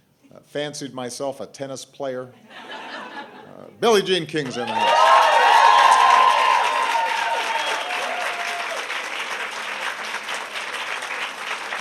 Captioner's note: laughter